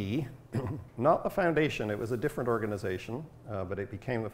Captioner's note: clears throat